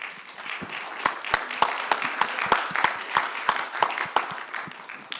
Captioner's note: audience applauding